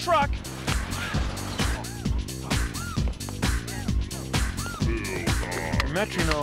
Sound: sighs

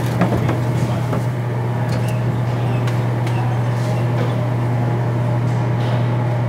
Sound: machinery humming and squeaking

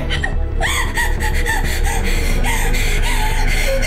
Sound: gasping for air

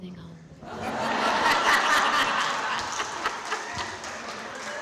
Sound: audience laughing

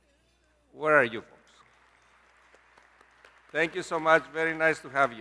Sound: applause

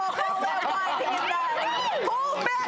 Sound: laughter

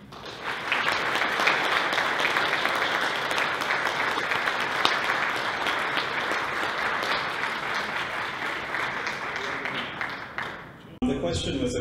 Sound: applause

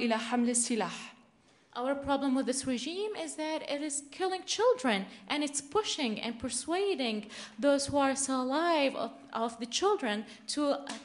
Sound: in arabic

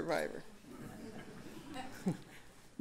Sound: laughter

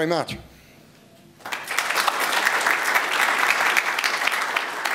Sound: applause

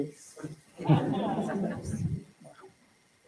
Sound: laughter

